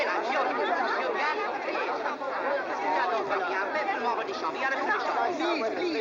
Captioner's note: overlapping chatter